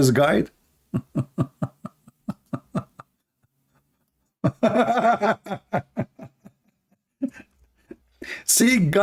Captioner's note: Ketawa